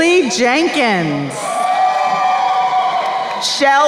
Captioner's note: crowd cheering